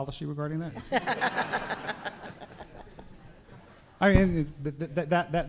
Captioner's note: laughter